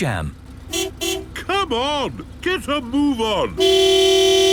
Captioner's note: honking